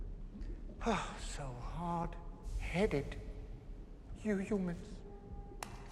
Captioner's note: sighs